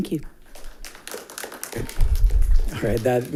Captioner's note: attendants applauding